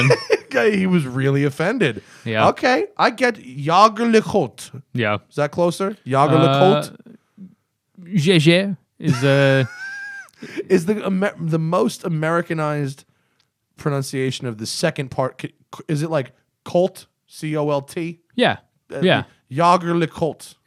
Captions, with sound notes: >>:(Laughter) He was really offended. OK, I get - Jaeger-LeCoultre. >>:Yeah. >>:Is that closer? Jaeger-LeCoultre? >>:(Non-English language spoken). >>:(Laughter) Is the most Americanized pronunciation of the second part, is it, like, colt - C-O-L-T? >>:Yeah. Yeah. >>:Jaeger-LeCoultre.